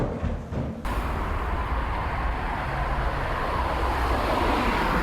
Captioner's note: traffic humming